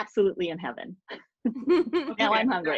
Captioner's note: laughing